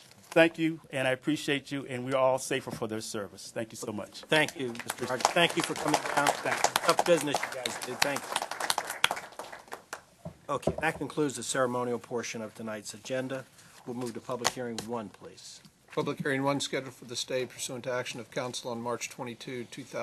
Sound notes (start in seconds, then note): 4.4 applause